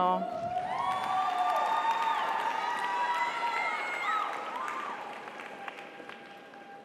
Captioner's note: audience cheers; audience applauds